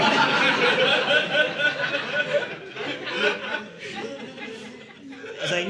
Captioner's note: audience laughing